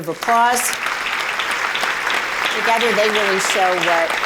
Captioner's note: applause